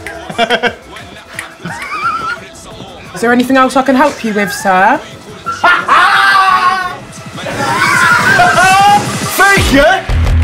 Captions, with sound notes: [HE LAUGHS] Is there anything else I can help you with, sir? [HE LAUGHS] Fake, yeah?